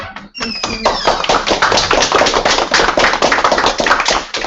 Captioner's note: applause